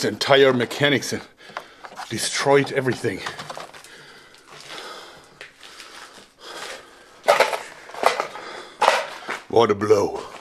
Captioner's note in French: grosse respiration